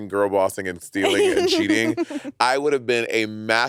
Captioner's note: laughing